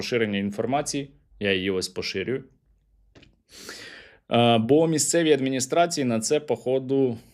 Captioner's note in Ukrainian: сопіння